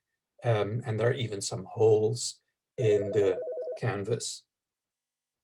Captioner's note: background ringing